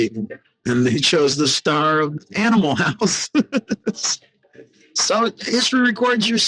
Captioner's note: laughing